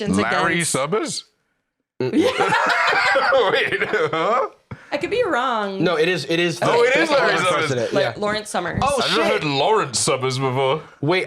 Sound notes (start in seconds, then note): 2.1 laughing